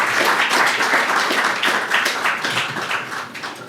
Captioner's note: applause